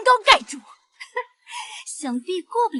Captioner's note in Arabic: يضحك ساخرًا